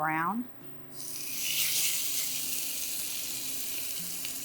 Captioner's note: pan sizzling